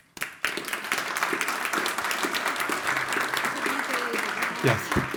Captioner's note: audience applauding